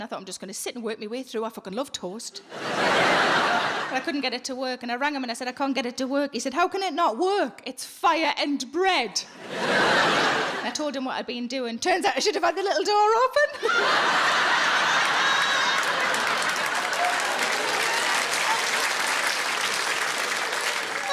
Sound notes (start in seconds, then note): 2.5 audience laughing; 9.4 audience laughing; 13.6 audience laughing; 13.7 audience clapping